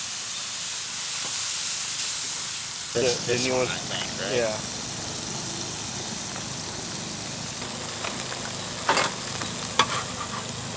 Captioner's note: sizzling